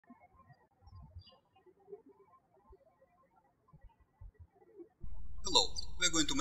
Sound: birds chirping

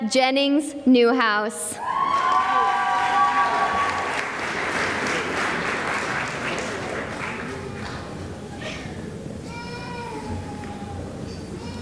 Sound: cheering and applause

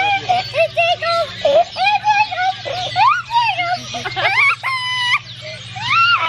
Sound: laughs; laughs

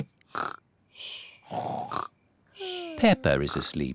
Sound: snores

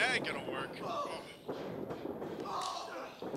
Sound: grunting; yelling

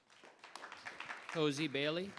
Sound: audience applauding

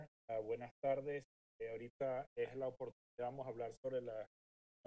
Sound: speaking Spanish

